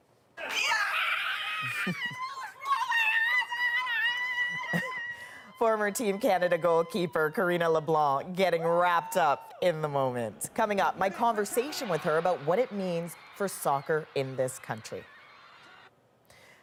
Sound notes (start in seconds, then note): 6.3 screaming